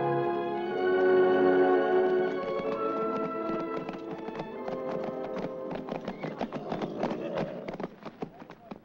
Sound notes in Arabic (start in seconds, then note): 0.0 موسيقى عاطفية; 2.5 ضربات حوافر; 2.5 موسيقى عاطفية